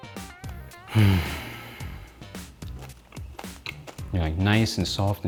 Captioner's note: sighs